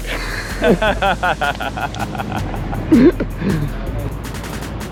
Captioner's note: laughing